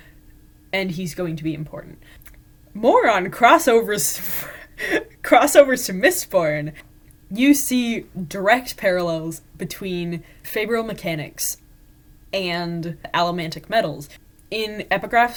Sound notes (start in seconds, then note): 4.2 laughing